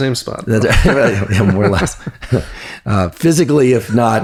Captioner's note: laughs